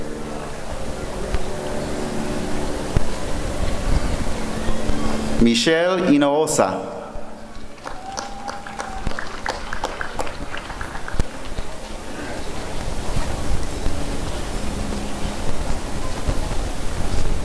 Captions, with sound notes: Michelle Hinojosa [applause and cheering]